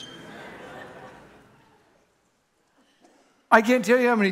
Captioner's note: congregation laughing